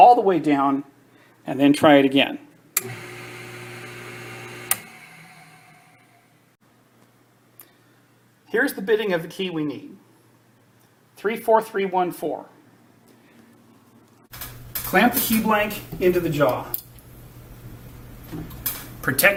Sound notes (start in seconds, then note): 2.8 electric motor spins